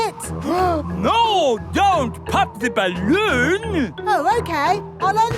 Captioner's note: gasps